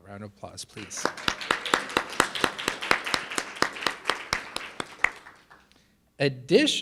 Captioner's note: and audience applauding